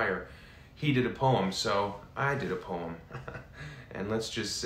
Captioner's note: chuckles